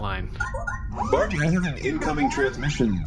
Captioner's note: communicator beeps